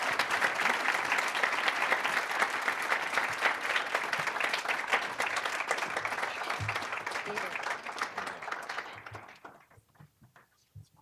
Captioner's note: applause, cheering; applause